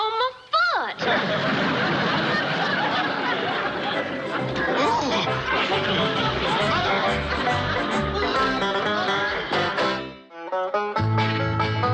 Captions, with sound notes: You're kneeling on my foot. (groans) Mother! (frustrated growl) Mother?